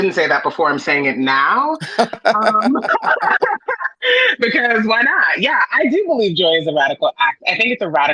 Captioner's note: both chuckle